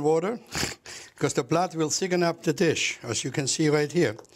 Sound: laughs

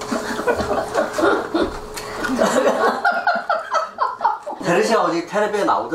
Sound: laughing

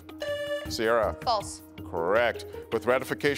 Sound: buzzer beeps

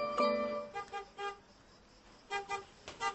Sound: car honks

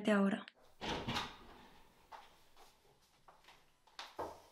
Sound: bedroom door opens

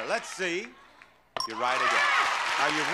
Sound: bell rings; audience applauds

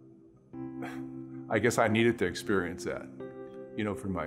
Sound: laughs

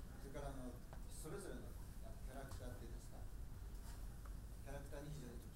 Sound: speaking in foreign language

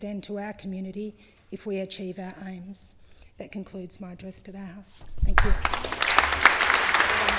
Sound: applause

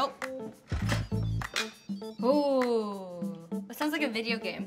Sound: Instant Pot beeping

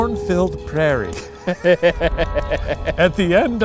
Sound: laughs

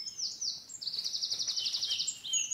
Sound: birds continue chirping

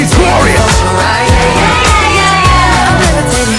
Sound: cheering

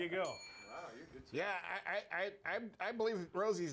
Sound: bell rings

